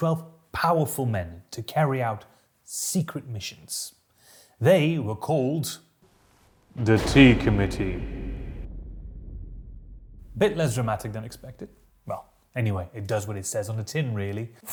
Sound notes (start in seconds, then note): 6.8 thunderclap